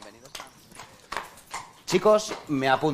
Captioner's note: horse trotting